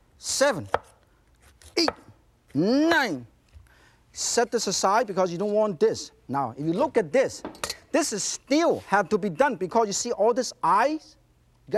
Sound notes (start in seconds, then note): none